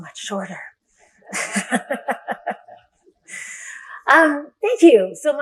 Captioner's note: laughter